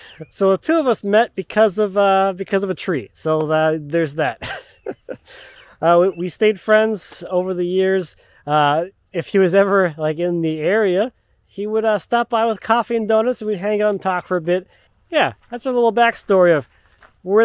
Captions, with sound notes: So the two of us met because of a tree. So there's that. (laughing) We stayed friends over the years. If he was ever like in the area, he would stop by with coffee and donuts. We'd hang out and talk for a bit. Yeah, that's a little backstory